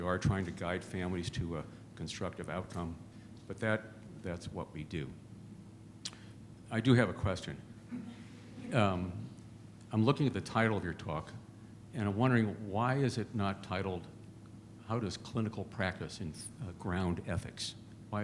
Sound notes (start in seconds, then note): 7.9 laughter